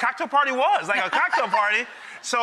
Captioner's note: Rachael laughing